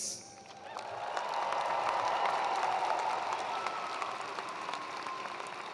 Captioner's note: attendees cheering and applauding